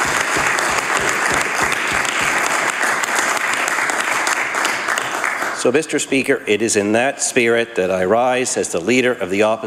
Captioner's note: some Applause